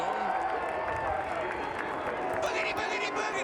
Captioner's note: applause